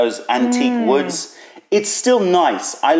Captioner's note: sips tea